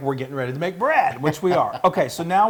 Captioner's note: laugh